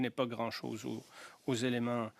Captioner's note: speaking French